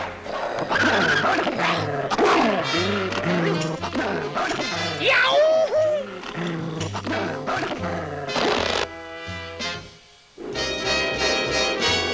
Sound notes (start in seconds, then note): 0.3 snarls; 4.8 Inspector screams